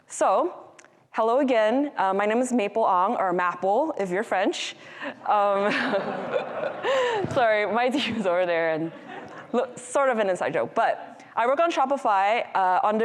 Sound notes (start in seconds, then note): 5.5 audience laughing; 5.6 laughing